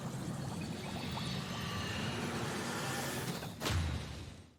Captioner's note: water drips and trickles; ghostly ethereal noises whisper